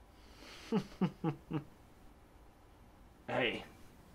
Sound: laughing

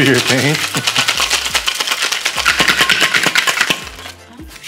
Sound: beverage shaking

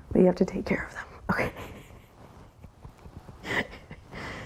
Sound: chuckles

